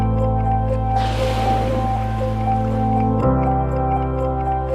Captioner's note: waves crash